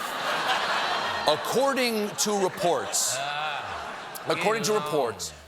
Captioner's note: laughter